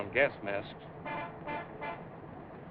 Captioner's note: honking